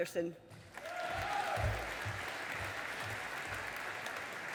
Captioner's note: audience applauding